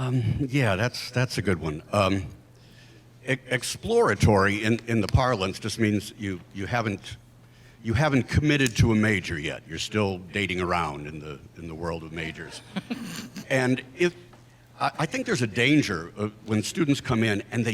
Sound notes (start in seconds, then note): 12.6 panelists laugh